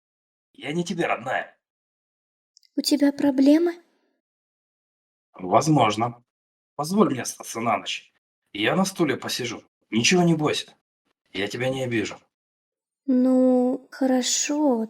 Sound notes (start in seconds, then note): none